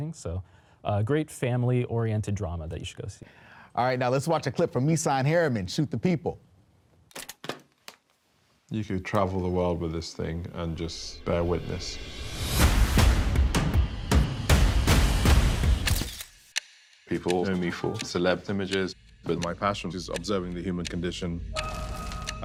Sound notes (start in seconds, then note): 7.2 camera clicking; 13.0 exhilarating instrumental music; 15.8 camera shutter snapping